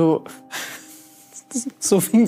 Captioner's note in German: Sie lacht